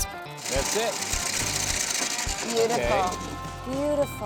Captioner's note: corn rattling in hopper